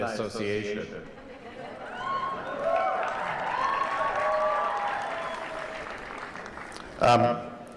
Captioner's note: cheering